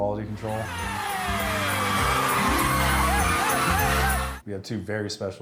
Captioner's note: crowd cheering